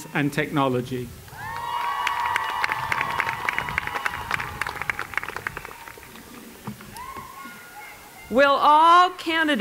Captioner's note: applause